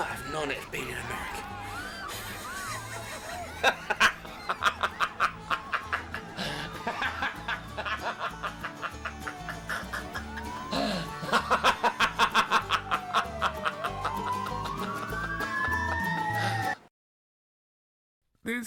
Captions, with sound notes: - I might have known it would be an American. (laughing) (upbeat country music) (sirens wailing)